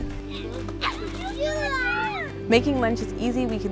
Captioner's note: family laughing